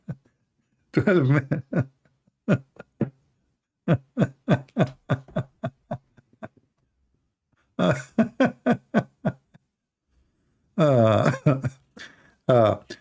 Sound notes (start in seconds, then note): 3.8 Ketawa